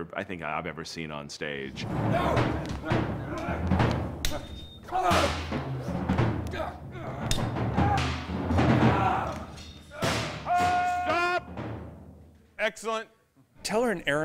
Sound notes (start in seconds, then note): 4.7 grunting; 4.7 intense percussion music